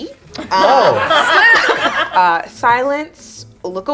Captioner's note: group laughs